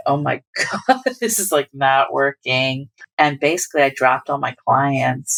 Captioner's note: laughter